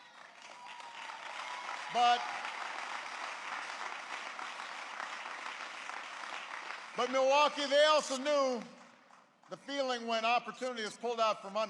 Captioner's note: applause